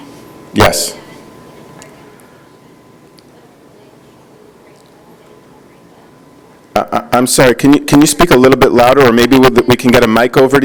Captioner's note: speaking off microphone